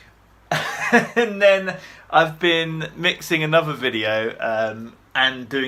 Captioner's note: laughing